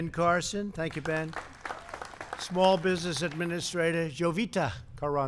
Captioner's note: applause